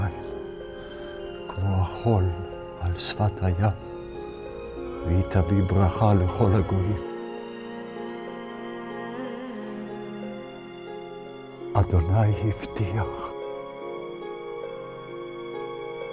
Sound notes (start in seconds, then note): 3.8 speaking in Hebrew